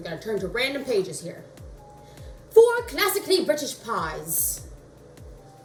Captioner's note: English accent